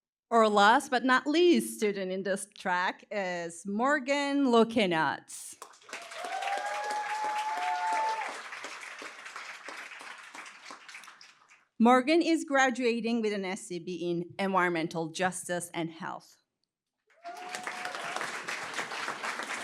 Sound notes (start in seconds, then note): 5.6 cheering, applause; 17.1 cheering, applause